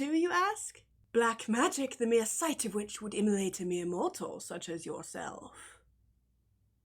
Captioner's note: bad British accent